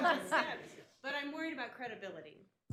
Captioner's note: laughter